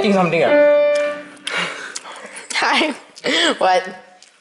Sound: munch munch munch

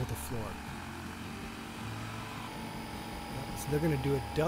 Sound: cement truck buzzing

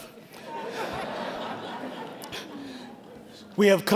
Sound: audience laughing

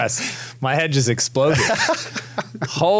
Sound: laughter

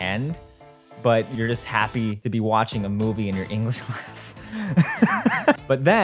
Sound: laughs

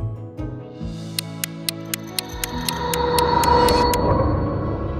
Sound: clock ticking; dramatic music

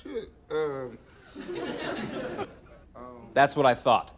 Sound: laughter

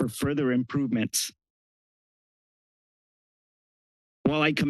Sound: pause

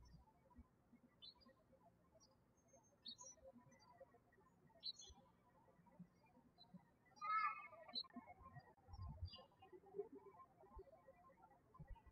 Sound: birds chirping

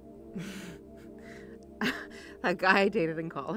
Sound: Sandra laughs

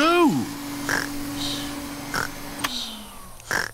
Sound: snores; whirring stops

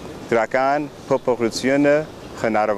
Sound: armenian

